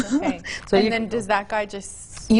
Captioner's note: chuckles